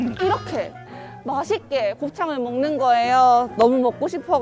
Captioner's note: slurp